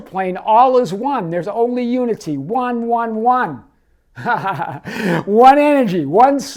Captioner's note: laughing